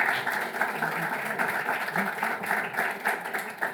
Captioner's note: applauding